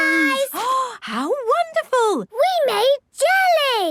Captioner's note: gasps